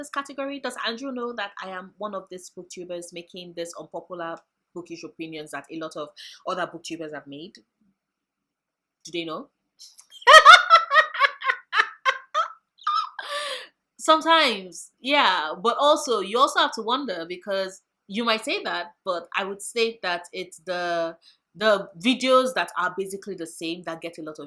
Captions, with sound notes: category? does andrew know that i am one of these booktubers making this un popular bookish opinions that a lot of other booktubers have made? do they know? [laughs] sometimes yeah. but also, you also have to wonder because you might say that, but i would say that it's the the videos that are basically the same that gets a lot